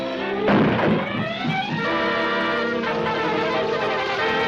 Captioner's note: pole clatters